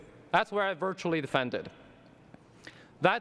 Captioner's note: none